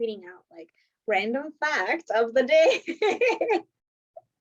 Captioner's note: laughs